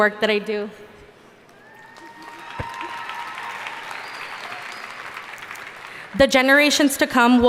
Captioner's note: audience cheering and applauding